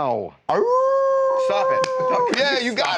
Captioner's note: howling